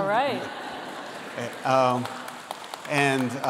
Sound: applause

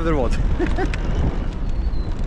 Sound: laughs

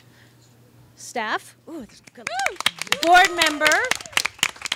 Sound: audience claps and cheers

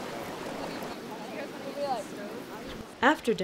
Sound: indistinct chatter

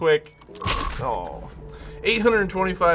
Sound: smack!

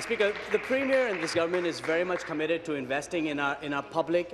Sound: applause

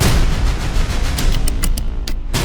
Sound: tapping to beat

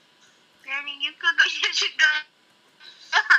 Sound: chuckles

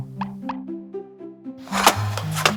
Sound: sound of head turning

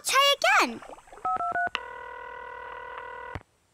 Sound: dialing

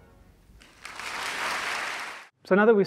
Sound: audience clapping

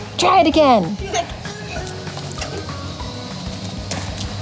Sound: laughing

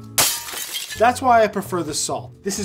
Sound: crashing

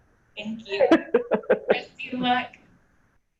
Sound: laughter

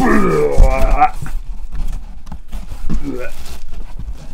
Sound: box shuffling; groaning; groaning

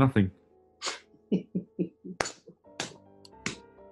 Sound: chuckling

